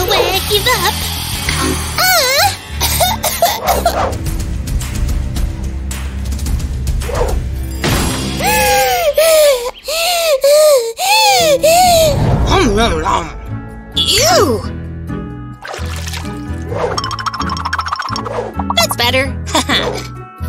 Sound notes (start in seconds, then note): 6.2 coughing; 6.2 loud breathing